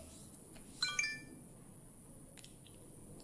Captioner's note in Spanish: Pitido